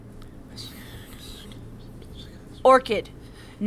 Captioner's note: Orchid whispers into Lavender's ear